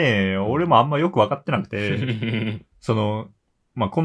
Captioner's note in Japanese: 咳払い